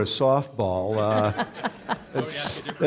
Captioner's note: audience laughing